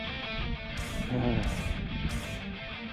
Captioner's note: sigh